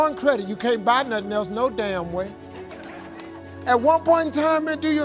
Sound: audience laughing

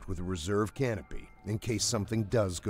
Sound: voiceover

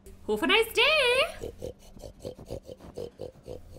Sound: pig snorts

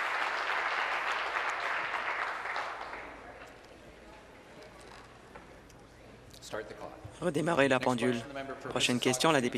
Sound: applause

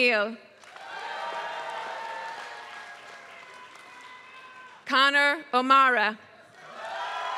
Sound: applause; applause

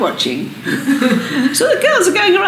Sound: laughter

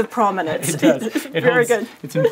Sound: laugh

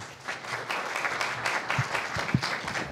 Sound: applause

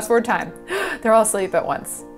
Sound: gasps

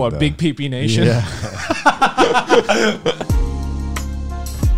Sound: man laughing; upbeat music

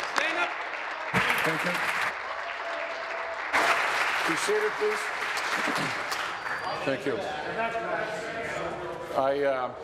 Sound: applause

